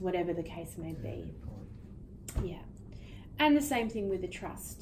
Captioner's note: speaking faintly